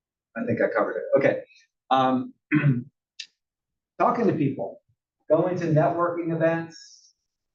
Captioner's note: cough